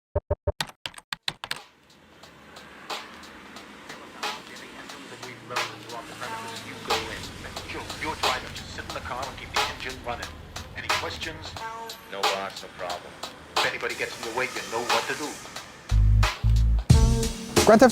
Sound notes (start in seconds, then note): 0.5 keyboard clicks; 4.0 upbeat music